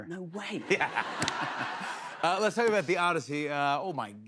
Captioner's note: laughter